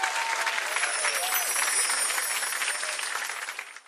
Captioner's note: twinkle